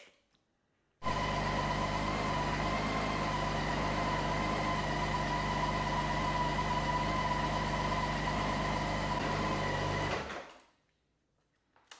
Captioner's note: engine is running